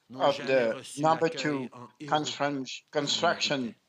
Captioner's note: speaking french